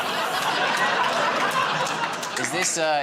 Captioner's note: laughter